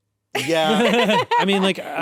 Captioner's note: laugh